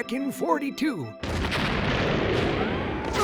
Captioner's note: explosion